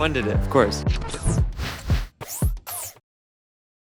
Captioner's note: sound effects